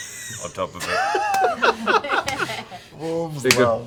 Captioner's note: laughter